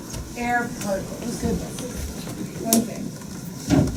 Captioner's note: chatter